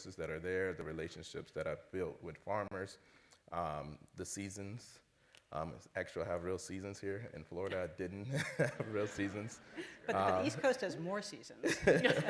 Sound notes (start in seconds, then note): 8.2 laughter